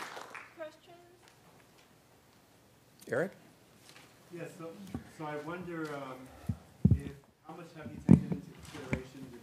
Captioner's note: applause